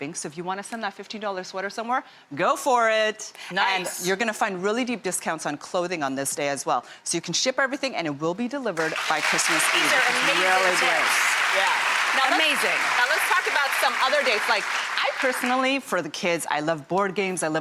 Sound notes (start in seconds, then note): 11.2 applauding